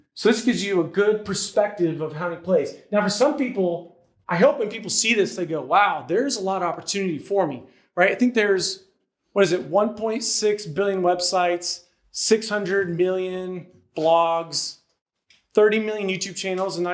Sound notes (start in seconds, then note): none